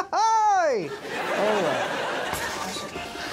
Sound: laughs

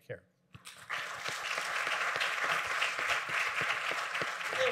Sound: audience applauding

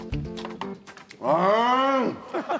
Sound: exclaiming

